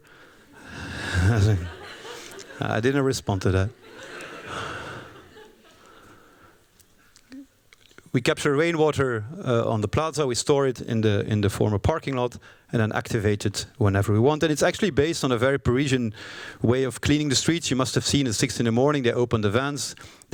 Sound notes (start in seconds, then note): 0.9 laughter